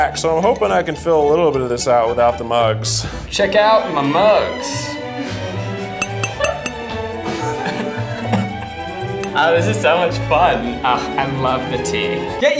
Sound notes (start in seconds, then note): 5.9 mugs clacking; 7.2 laughs